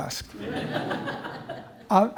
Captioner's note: laughter